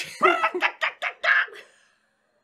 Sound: they laugh

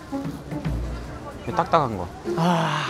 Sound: sniff

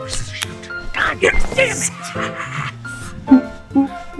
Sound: laughs

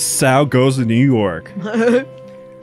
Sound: laughs

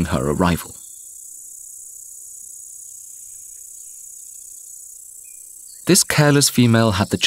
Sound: sounds of nature

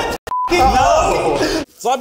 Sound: beep

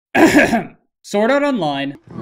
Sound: ahem

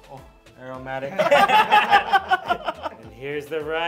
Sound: laughs

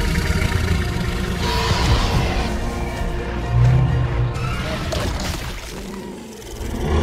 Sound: Apatosaurus cries

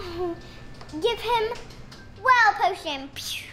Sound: blows

